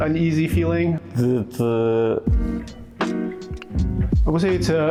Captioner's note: non-english speech